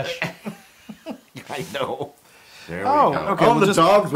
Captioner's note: laugh